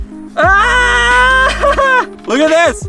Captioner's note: screaming